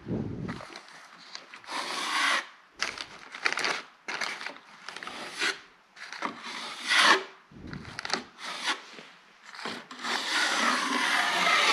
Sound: drywall mudding sound

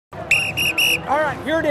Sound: whistles

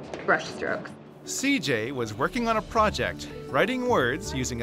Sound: voiceover

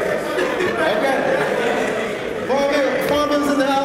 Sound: laugh

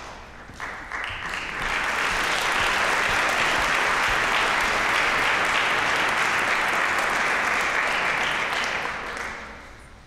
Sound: applause

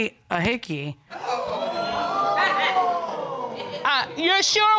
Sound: audience exclaiming

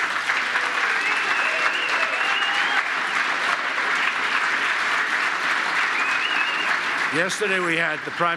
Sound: applause

